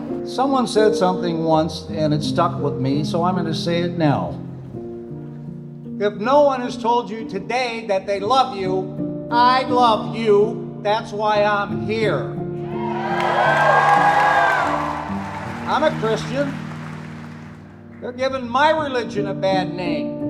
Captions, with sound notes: Someone said something once, and it stuck with me, so I'm gonna say it now. If no one has told you today that they love you, I love you, that's why I'm here. [APPLAUSE] I'm a Christian. They're giving my religion a bad name.